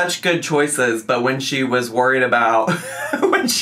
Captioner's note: laughs